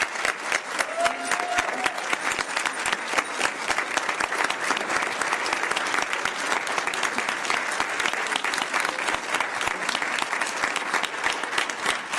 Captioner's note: cheers and applause